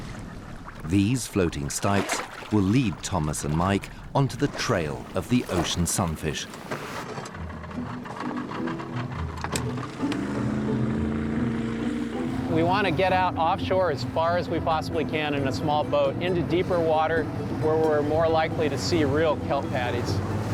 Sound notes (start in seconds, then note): 10.3 engine starts